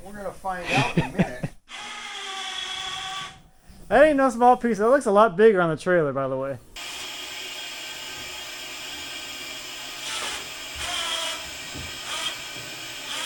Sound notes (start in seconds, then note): 1.7 saw buzzing; 10.3 machines buzzing